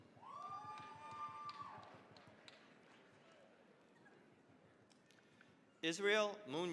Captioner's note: cheering, applause